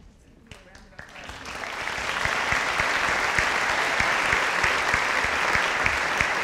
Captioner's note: audience applauding